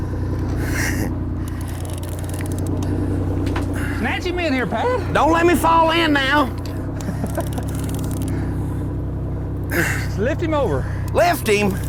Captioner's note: laughter